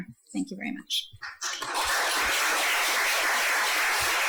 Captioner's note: audience applauds